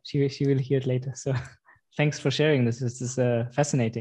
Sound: laughs

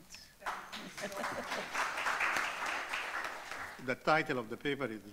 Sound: audience clapping; chuckles

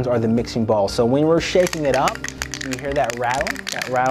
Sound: balls rattling

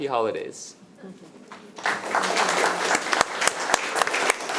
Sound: all clapping

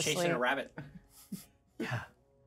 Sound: speaker chuckles

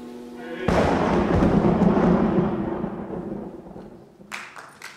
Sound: thunder roaring

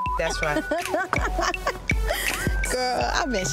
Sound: beep; laughing

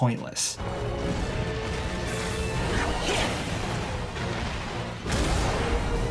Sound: dramatic music; objects crashing

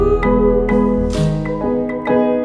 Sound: clap

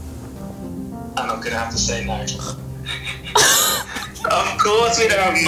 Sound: both laugh

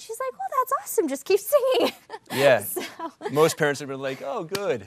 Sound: laughs

